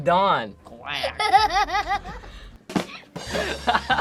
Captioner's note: laughs